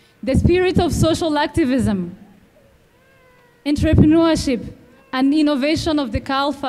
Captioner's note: none